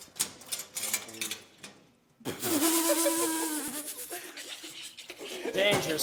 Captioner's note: laughing